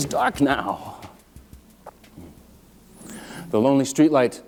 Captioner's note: quiet street sounds